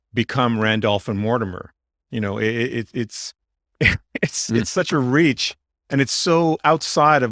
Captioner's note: laughs